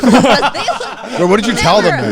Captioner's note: everyone laughing